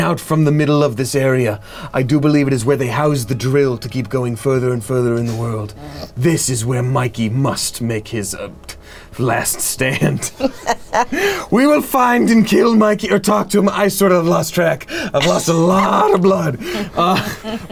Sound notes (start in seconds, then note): 9.5 woman laughs